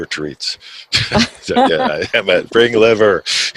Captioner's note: both laughing